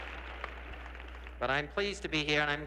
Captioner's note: audience applauds